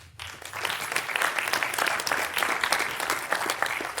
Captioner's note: audience applaude